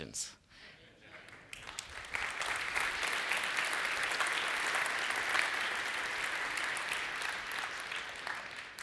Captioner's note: applause